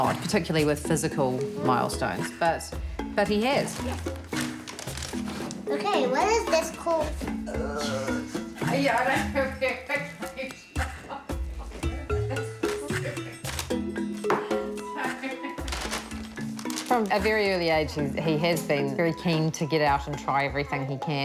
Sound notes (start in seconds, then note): 8.7 laughs